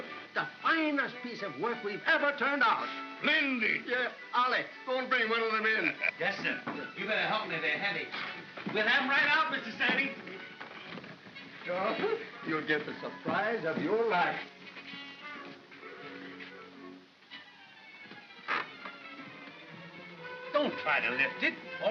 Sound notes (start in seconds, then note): 17.2 creaking sound